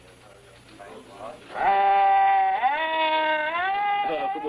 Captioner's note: sirens wailing